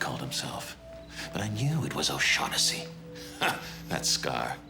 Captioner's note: laughs